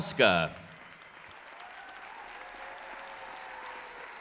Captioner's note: applause and cheering